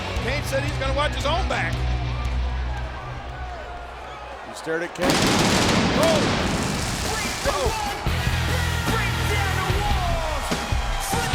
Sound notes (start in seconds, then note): 3.0 crowd chattering; 5.0 fireworks blasting; 8.5 upbeat music